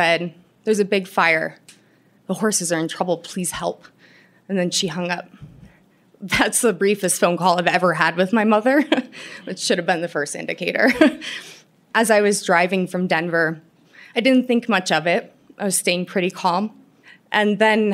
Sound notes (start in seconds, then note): 10.8 laughter